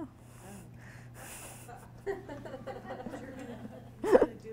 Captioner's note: audience laughing